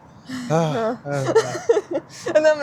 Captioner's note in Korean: 한숨